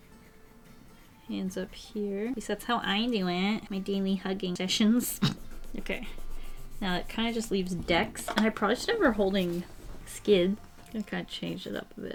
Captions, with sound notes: Hands up here. At least that's how I do it. In my daily hugging sessions. [Snorts] Okay. Now it kind of just leaves Dex. I should probably have her holding Skid Kind of change it up a bit.